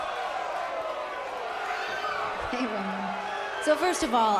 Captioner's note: crowd chatter